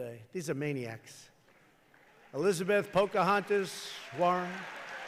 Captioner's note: applause